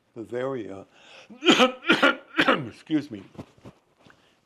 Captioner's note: coughing